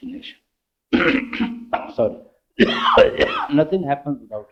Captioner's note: I'm sorry, coughing